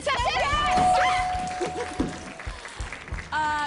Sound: cheers

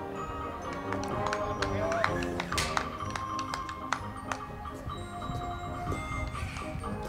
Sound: crowd clapping; band music

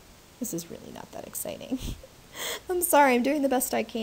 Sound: laughing

